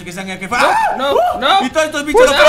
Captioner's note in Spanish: Grita